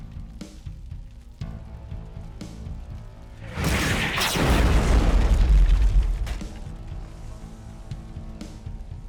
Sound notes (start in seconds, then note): 3.4 whooshing; 3.4 explosion roars